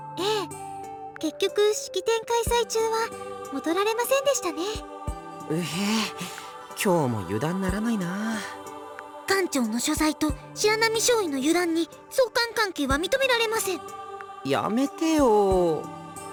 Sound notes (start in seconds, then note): 6.1 groan